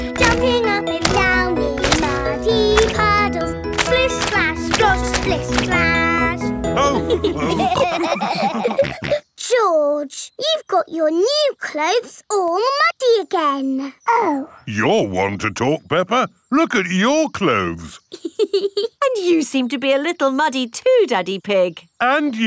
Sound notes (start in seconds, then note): 6.7 all laughing; 18.0 laughs